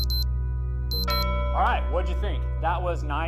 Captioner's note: beep Sound